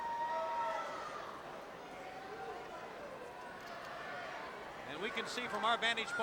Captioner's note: crowd chattering